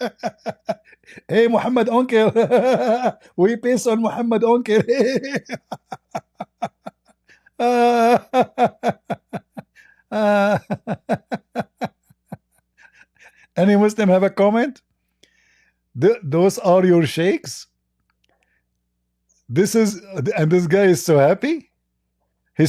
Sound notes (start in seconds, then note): 8.0 Ketawa